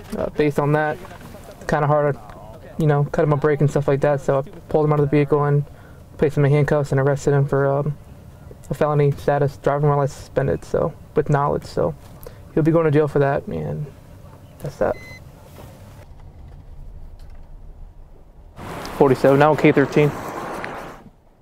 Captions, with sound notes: Based on that, it's kind of hard to, you know, cut him a break and stuff like that. So I pulled him out of the vehicle and placed him in handcuffs and arrested him for a felony status, driving while license suspended. With knowledge, so he'll be going to jail for that and that's that. (device beeping) 47 now, okay 13.